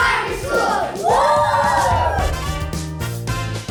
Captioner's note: cheering